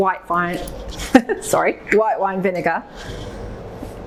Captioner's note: chuckles